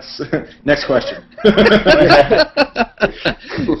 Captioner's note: laughter